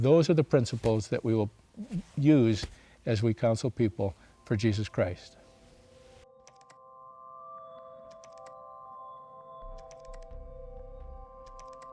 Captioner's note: keyboard clacking